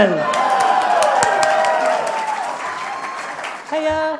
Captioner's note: applause